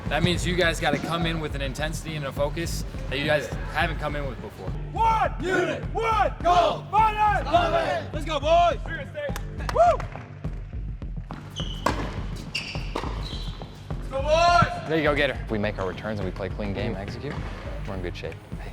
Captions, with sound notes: That means you guys gotta come in with an intensity and a focus that you guys haven't come in with before. (team cheering) - There you go, get it. We make our returns and we play a clean game, execute, we're in good shape.